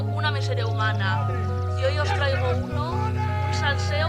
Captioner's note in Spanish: gritando